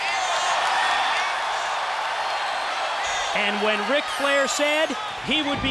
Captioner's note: crowd cheering